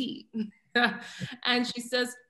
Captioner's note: chuckles